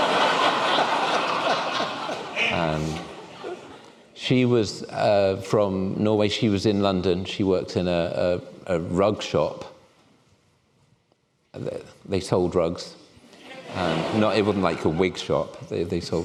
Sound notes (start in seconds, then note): 0.0 laughter